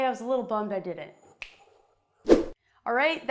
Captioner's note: finger snapping